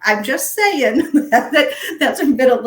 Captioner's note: laughing